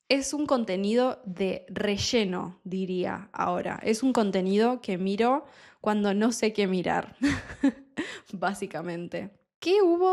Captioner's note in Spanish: risas